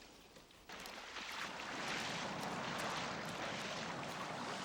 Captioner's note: water splashing